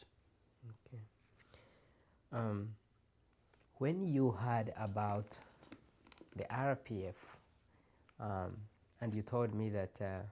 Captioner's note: pauses for 3 seconds